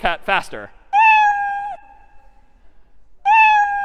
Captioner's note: meowing